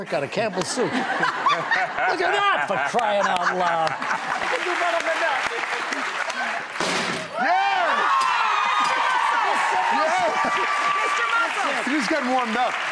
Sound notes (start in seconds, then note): 0.8 laughing; 7.5 crowd cheering